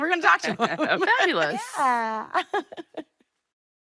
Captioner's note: laughing